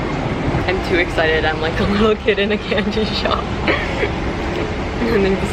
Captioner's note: giggle